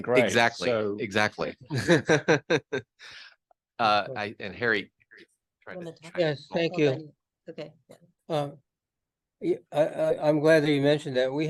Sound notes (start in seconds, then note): 1.6 laughs